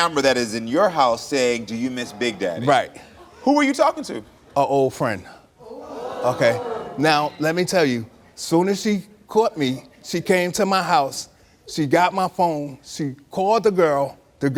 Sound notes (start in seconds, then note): 5.6 audience reacts scandalously